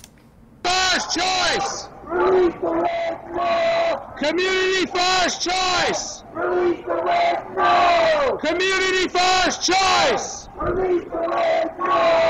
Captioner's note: chanting